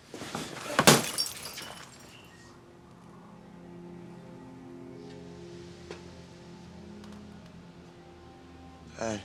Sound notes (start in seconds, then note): 0.1 bottle crashing; 2.4 somber music